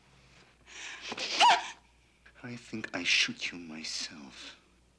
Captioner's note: gasps